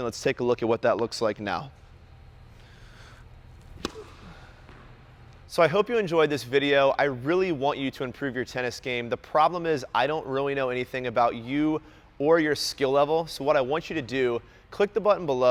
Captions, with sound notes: Let's take a look at what that looks like now. (pop) So, I hope you enjoyed this video. I really want you to improve your tennis game. The problem is, I don't really know anything about you or your skill level. So what I want you to do is, click the button below,